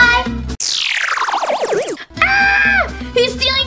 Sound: futuristic zapping

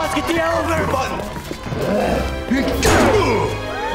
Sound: grunting

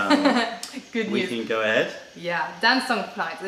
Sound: laughter

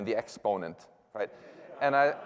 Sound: laughter

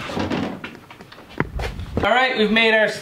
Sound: objects clatter; footsteps

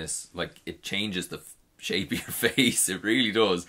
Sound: laughs

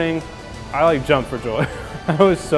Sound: laughs

